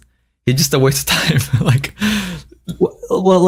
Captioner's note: laughs